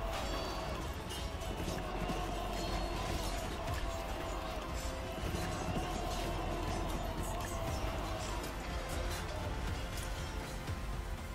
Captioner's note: sword, Tekbir and Horse Running Sounds